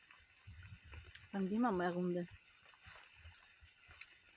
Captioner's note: rain